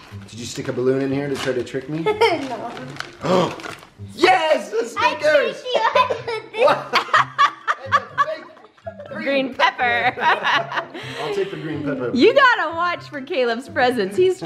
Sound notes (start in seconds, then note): 2.0 laughs; 3.2 gasp; 5.7 laughing